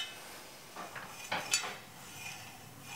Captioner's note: scratching sound